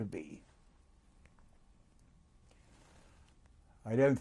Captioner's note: pauses for 3 seconds